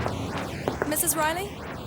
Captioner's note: knocking